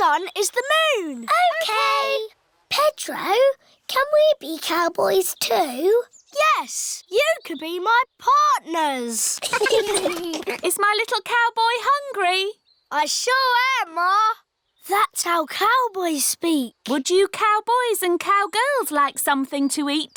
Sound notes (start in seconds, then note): 9.4 all giggling